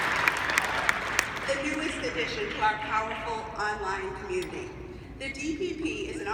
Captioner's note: applause